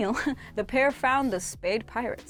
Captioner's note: laughs